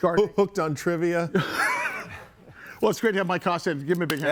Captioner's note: chuckles